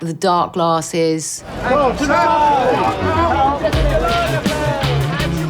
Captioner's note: crowd chattering; energetic music